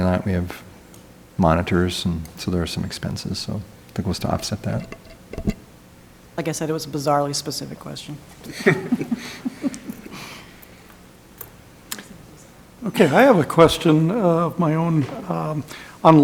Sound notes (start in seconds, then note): 8.4 people laughing